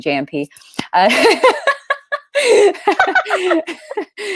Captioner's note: laughing